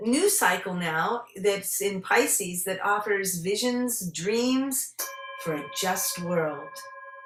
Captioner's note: singing Bowl rings